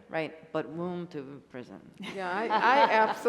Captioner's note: laughter